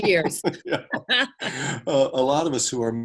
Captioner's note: both laugh